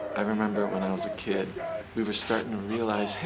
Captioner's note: people shouting faintly